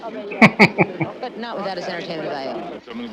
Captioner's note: chuckling